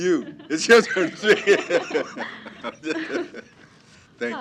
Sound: laughter

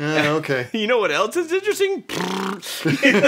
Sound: imitates fart sound

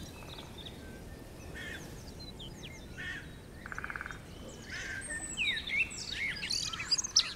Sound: woodpecker

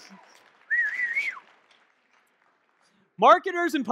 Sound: whistling

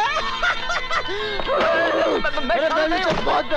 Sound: laughs

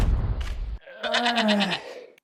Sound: argh

